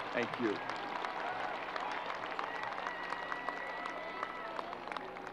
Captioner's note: crowd applause